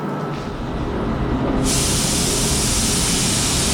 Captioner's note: hissing